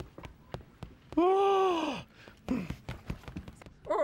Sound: sighs in frustration

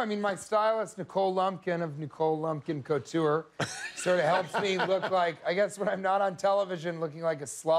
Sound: laughter

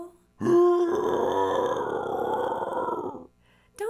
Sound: bear growls

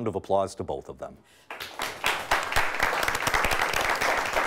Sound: audience clapping

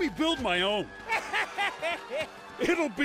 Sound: Sandman laughs

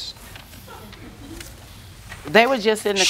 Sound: laughter

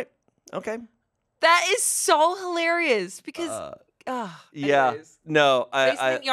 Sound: groans

